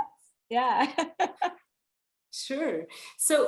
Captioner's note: laughing